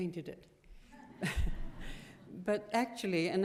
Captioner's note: laughter